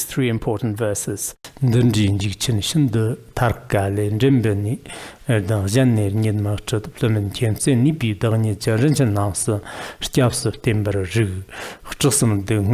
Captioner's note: giving oral transmission in Tibetan